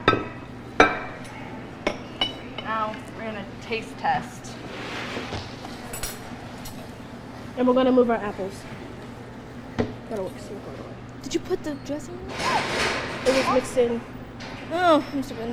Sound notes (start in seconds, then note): 0.0 plates clatter; 5.9 forks clinking; 12.3 loud banging nearby